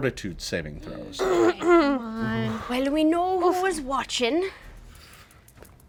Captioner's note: clears throat